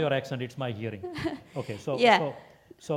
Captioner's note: laugh